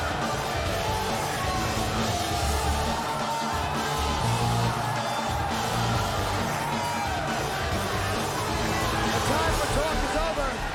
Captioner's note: cheers and applause